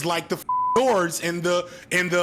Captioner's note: beep